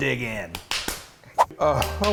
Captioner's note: applauding